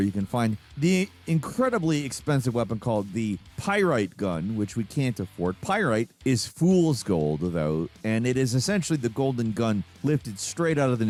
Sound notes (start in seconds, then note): none